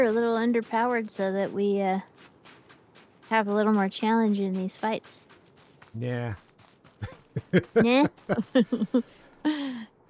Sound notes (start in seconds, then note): 7.0 laughs